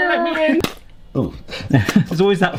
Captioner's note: laughing; ketchup spurting